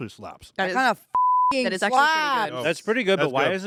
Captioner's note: beep